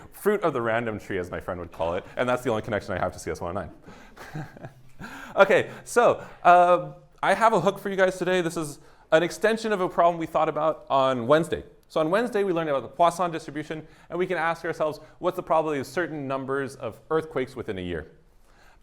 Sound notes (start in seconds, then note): 3.9 chuckles